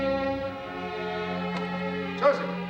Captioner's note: door opening